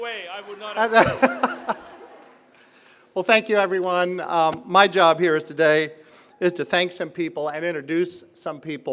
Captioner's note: laugh